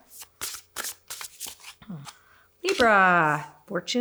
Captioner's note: cards rustle